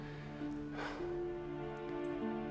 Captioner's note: sighs